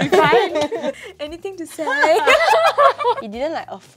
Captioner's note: laughs